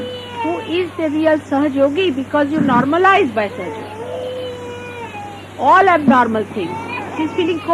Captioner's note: child crying